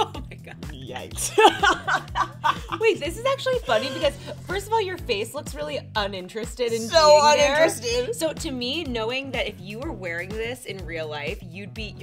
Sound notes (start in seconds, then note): 0.6 laughs